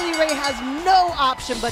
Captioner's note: bell ringing